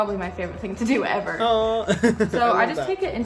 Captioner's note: laughs